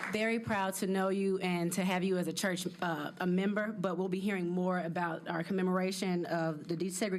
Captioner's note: applause